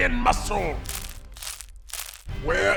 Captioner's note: chewing